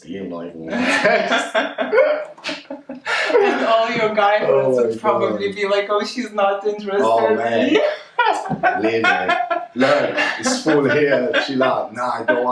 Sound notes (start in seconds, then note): 0.7 both laughing